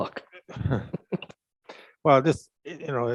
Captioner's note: chuckles